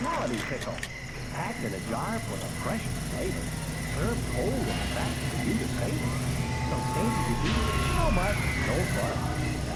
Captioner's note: drive in movie sounds multiple sources at once